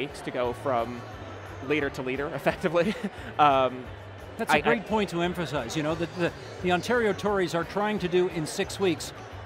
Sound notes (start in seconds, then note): 2.7 chuckling